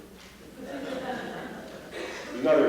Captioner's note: laughter